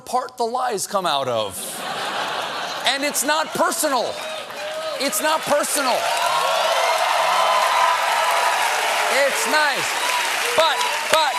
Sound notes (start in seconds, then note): 1.6 laughter; 2.8 applause; 9.9 cheers and applause